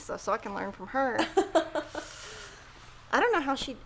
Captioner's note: guffaws